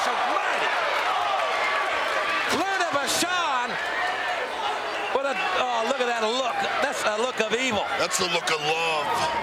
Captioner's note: applause